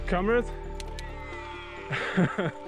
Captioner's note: audible cheer